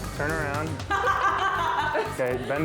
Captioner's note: laughs